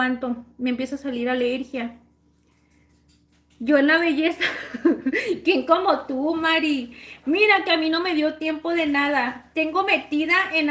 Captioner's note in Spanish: risas